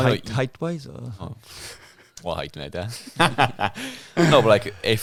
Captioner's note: laughing